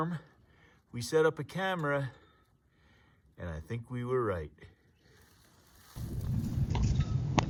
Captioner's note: wind noise